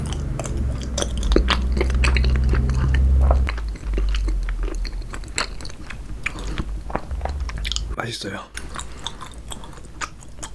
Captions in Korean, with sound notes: (오토바이 소리는 그칠줄 모르고..) 다음으로 먹어볼 찹쌀이는..